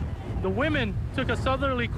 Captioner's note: boat engine running